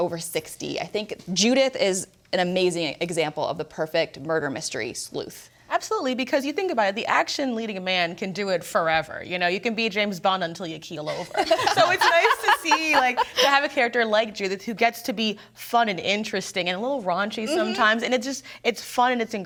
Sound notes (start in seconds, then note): 11.1 everyone laughing